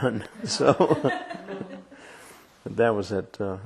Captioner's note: laughter